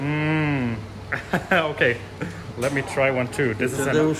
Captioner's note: speaking in foreign language; chuckles